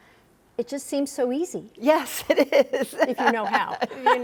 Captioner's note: laughing